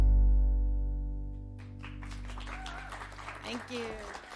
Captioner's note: audience applauds